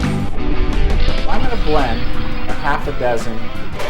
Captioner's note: flames roaring